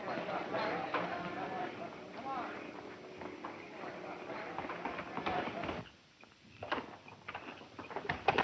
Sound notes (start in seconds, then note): 5.0 horse galloping